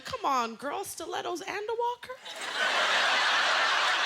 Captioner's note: laughter